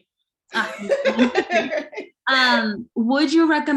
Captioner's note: chuckling